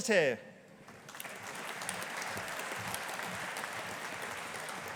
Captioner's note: audience applauding